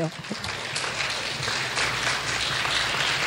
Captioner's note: clapping